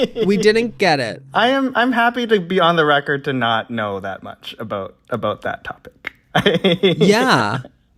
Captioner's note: laughter; laughter